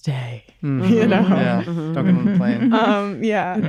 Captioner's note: chuckles